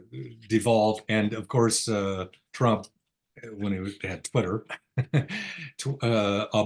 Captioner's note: chuckles